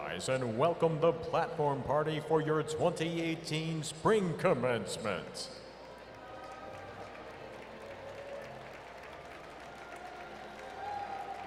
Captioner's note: applause